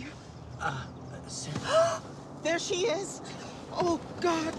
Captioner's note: gasps